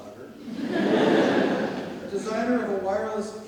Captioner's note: audience laughs